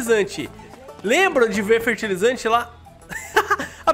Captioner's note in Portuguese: risos